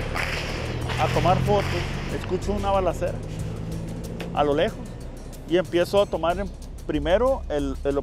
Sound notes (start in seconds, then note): 0.8 gunshots